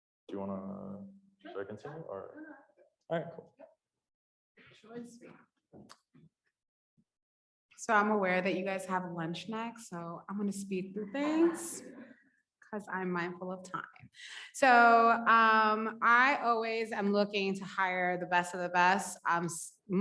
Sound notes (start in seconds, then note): 11.2 audience laughs